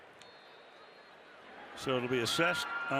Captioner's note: whistle